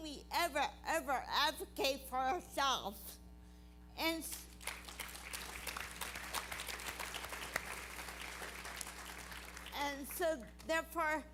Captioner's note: applause